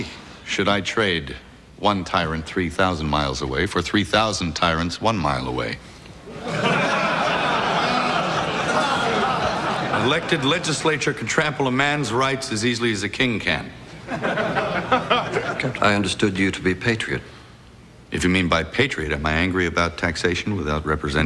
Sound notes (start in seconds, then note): 6.2 crowd laughing; 13.9 crowd chuckling